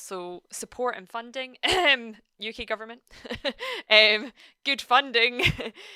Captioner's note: chuckles